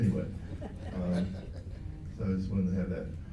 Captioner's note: laughs